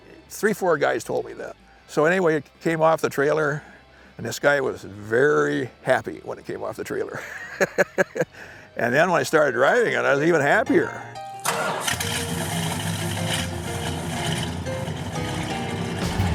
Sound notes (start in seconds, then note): 7.1 laughing; 11.3 bright music; 11.4 engine roaring